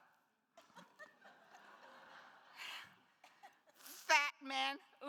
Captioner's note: attendees laughs